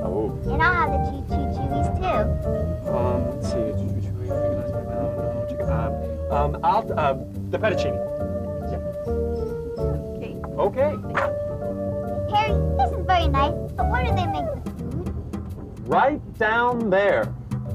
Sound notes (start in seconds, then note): 4.6 Harry mumbling to himself